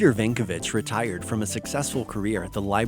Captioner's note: voiceover